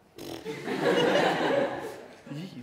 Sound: laughter

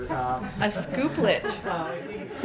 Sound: laughter

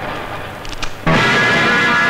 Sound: briefcase lock opens

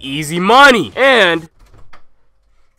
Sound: door opens

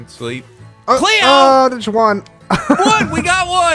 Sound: laughs

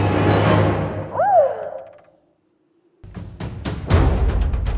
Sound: woman moaning

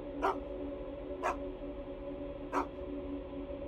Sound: Willamina barking; dramatic music

